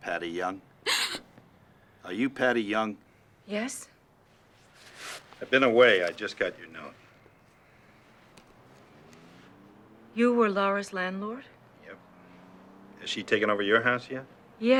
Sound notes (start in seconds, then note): 1.1 gasping